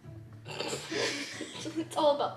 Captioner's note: laughs